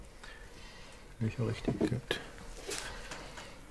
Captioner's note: he murmurs